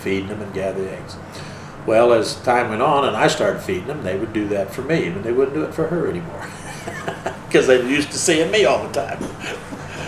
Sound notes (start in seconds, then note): 6.4 laughs